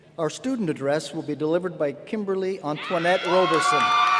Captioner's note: cheers and applause